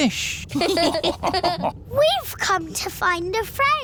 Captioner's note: all laughing